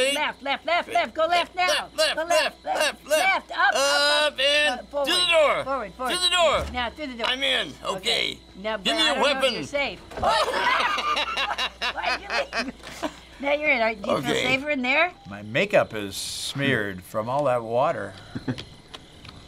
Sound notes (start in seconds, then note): 6.2 door opening; 10.0 door shutting; 10.2 both laughing